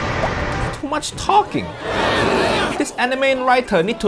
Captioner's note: dramatic music; crowd murmuring